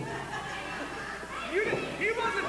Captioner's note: crowd laughs and yells